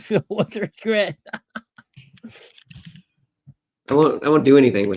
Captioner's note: laughs